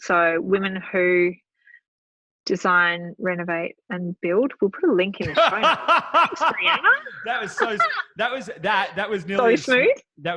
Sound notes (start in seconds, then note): 5.2 laughing